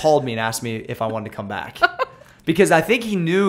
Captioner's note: laughter